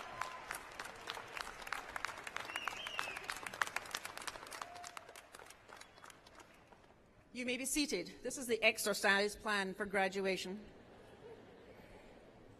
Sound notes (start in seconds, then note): 7.7 applause